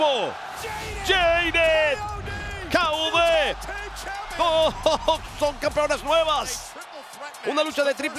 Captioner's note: laugh